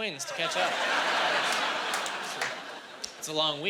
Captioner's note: laughing